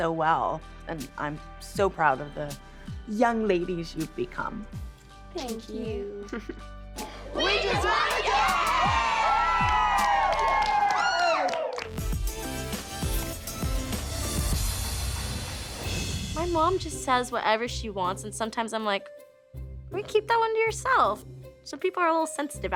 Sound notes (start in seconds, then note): 10.3 cheering